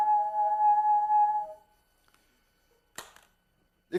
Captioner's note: tube hums two tones